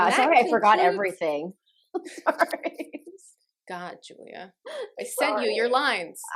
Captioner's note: laughter